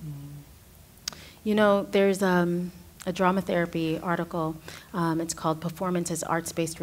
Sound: others agreeing; clicking lips

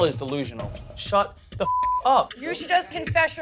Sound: beep

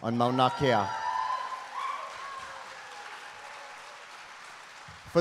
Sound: audience cheering

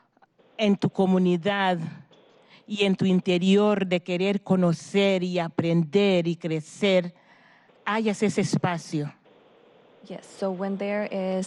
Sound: speaking spanish

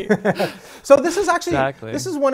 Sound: laughing

